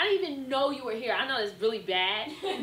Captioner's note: students laugh